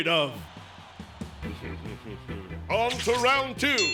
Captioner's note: crowd cheering; ding